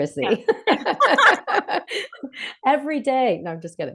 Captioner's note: laughter